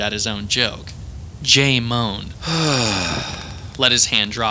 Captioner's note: Agent J moans